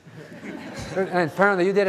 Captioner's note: audience laughing